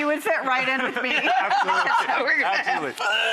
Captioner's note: laughter